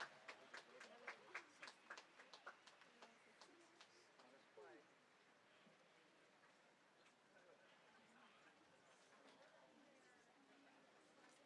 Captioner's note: applause